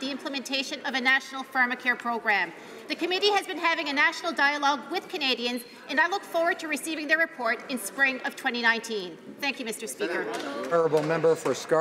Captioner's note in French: applaudissements